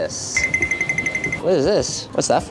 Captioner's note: chime rings